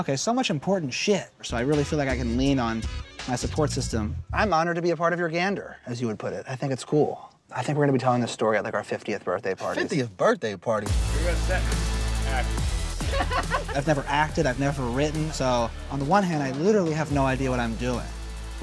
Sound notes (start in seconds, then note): 13.0 laughter